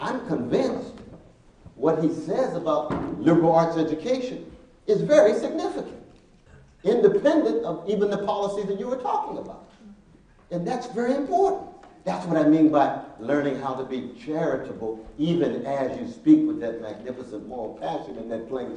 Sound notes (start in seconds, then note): none